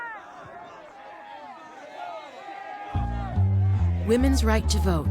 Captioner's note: people chanting